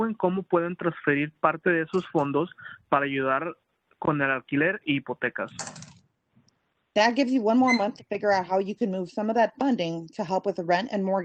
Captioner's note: speaking Spanish